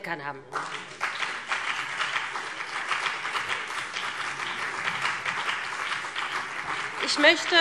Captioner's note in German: Beifall BÜNDNIS 90/DIE GRÜNEN und CDU